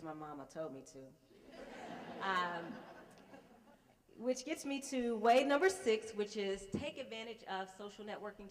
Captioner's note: laughter